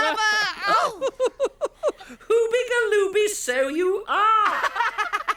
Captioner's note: laughing; laughing